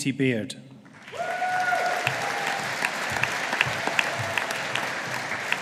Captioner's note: audience applauding